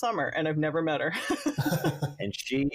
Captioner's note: laughs